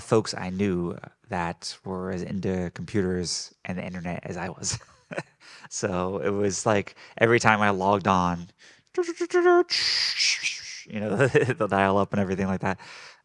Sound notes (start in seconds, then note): 4.3 laughing; 9.0 computer babbling